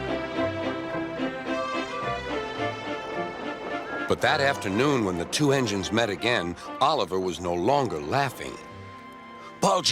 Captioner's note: Oliver whistles, Thomas whistles in the background